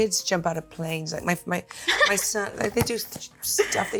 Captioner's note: Jenna chuckles